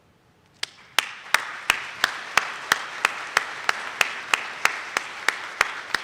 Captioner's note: attendees clapping